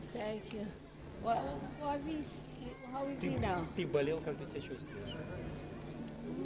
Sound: russian

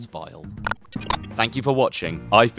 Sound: scramble sound effect

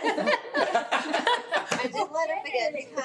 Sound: laughing

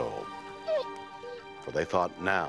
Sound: dog whines

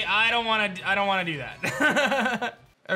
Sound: laughs

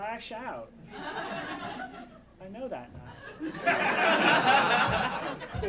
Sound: audience laughing

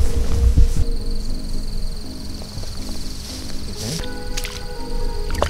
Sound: crickets chirping

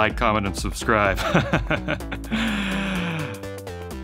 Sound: laughing

